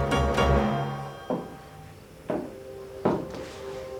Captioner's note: footsteps